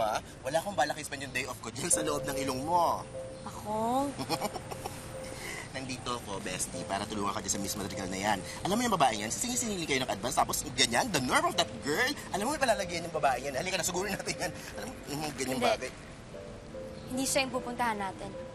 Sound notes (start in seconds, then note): 4.1 Takong chuckles